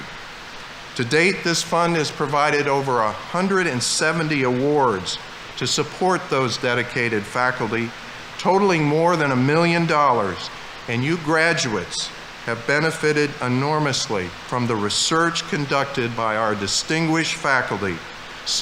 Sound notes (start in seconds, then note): none